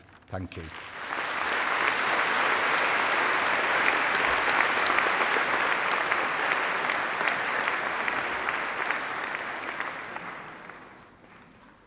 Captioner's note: applause